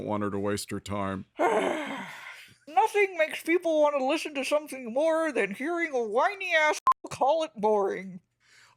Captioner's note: heavy sigh